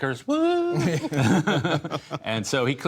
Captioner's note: laughter